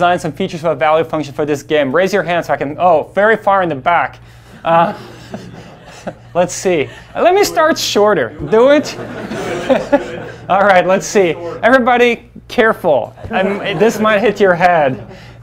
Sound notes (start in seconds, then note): 4.6 laughs; 8.2 laughs; 10.2 class laughs